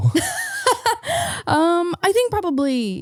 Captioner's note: laughing